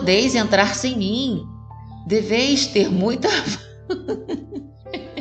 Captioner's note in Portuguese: hahahahaha